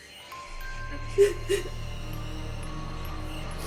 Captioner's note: sobbing; dramatic music